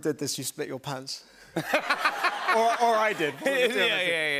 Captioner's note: laughter